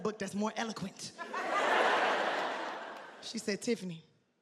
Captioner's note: audience laughing